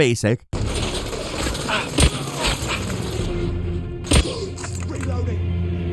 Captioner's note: tense dramatic music; guns blasting